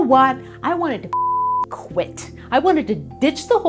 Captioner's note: beep